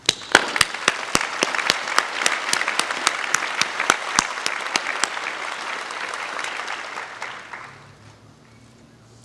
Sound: applause

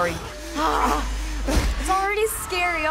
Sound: thumping and screaming

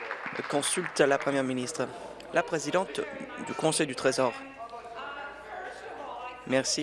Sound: applause

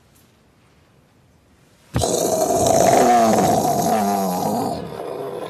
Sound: mimics explosion

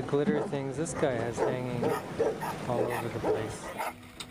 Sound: voiceover

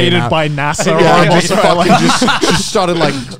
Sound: everyone laughs

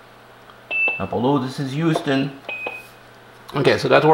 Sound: Quindar intro beep; Quindar outro beep; Quindar intro beep; Quindar outro beep

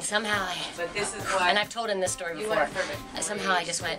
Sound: exhale

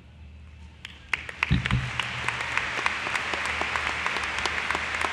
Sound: applause

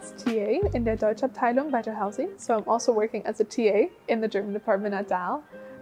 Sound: speaks in foreign language

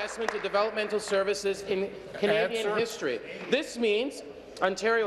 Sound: applause

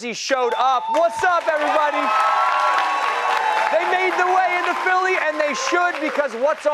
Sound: cheers and applause

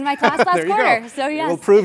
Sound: laugh

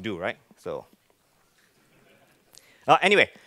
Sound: laughing

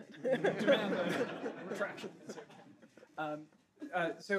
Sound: all laughing

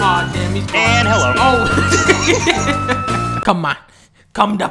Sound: laughs

